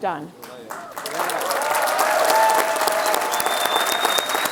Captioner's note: applause, cheers